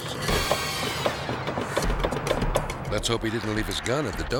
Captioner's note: door handle clicking